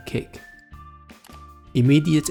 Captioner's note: mouse click